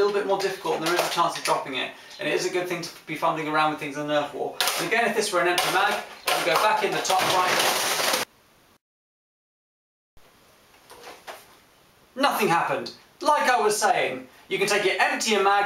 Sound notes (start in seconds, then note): 11.1 crashing sound